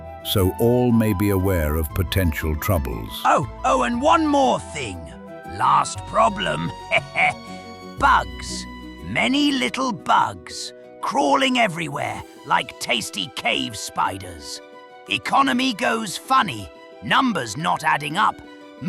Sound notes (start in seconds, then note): 6.6 laugh